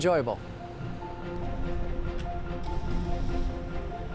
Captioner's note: air whooshing